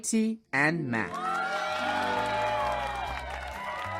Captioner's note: applause and cheering